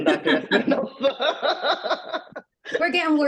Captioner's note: laughs